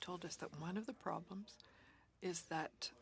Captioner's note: speaking French